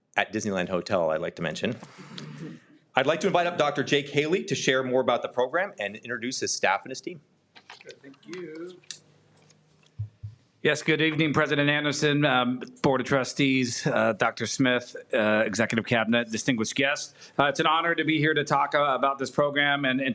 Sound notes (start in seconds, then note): 2.4 some audience members laugh